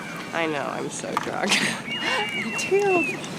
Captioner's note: chuckles